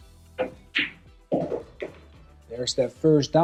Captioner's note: balls clanging